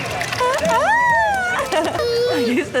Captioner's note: splashing anyway